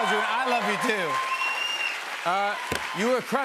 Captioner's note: cheers and applause